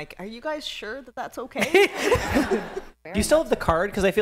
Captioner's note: laughter